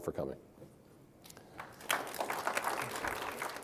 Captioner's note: applause